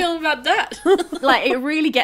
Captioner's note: laughing